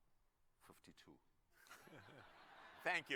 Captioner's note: laughter